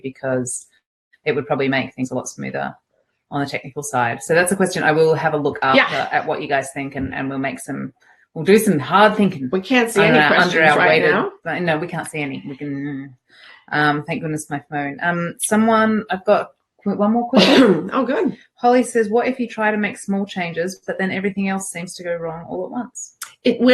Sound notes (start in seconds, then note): 12.9 hums; 17.3 coughs